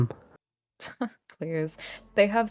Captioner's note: scoffs